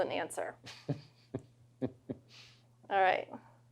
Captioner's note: laughs